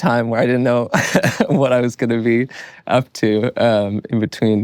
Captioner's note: laughs